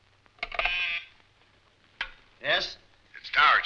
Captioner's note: intercom buzzing